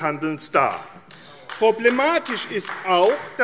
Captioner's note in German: Beifall AfD